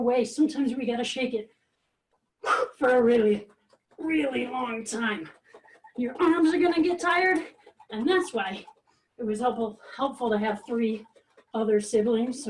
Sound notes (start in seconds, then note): 2.4 huffing